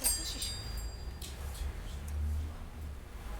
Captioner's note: bell jingles